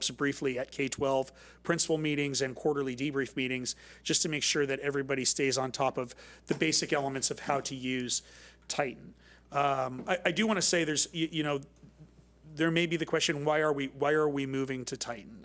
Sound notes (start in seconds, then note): none